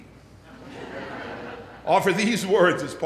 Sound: laughter

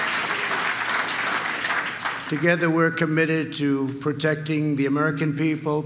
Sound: applause

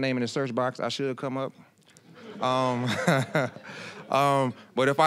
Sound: audience laughing

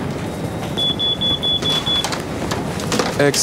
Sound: beeping

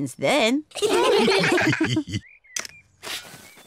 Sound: all laugh

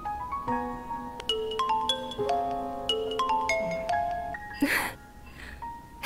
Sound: phone ringing 00:34:04

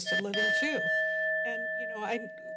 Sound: bell ring

